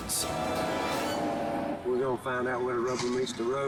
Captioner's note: engine buzzing